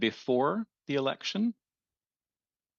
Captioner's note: speaking French